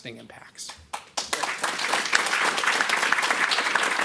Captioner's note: applause